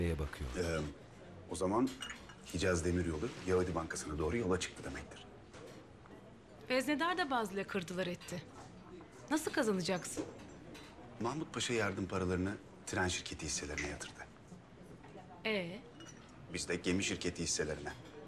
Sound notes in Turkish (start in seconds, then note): none